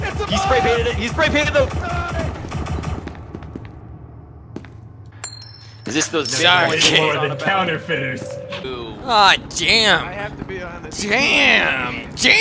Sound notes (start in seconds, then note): 6.2 flips quarter